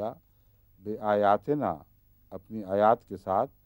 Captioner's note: Arabic